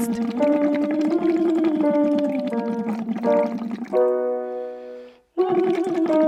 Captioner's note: piano scales continue; humming continues